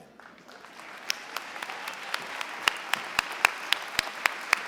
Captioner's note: applause